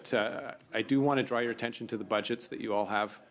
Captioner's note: speaking French